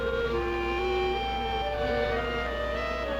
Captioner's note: buzzing